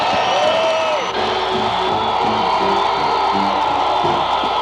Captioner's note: cheering loudly